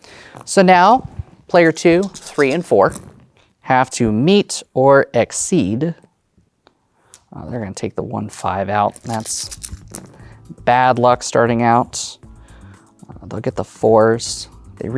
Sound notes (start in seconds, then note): 2.0 dice rattling; 2.0 dice rolling; 8.8 dice rattling, then rolling